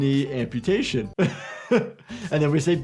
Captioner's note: chuckles